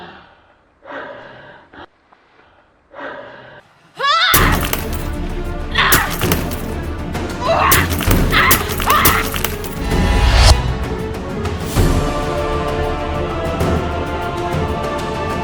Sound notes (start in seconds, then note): 4.0 Kody grunting; 4.0 dramatic music